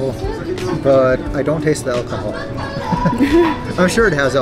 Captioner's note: chuckles